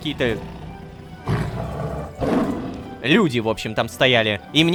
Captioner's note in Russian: Рык льва